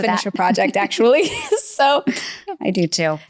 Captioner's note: laughs